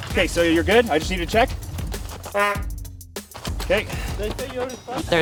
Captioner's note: horn beeps